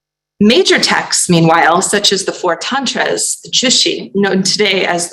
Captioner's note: non-english